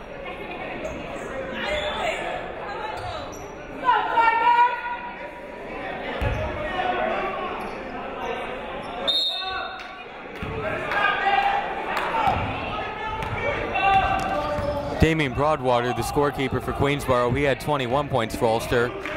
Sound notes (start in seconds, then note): 9.0 whistle blowing; 11.7 shouting